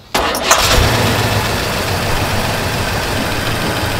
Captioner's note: engine hums